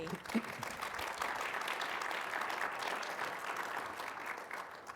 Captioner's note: audience clapping loudly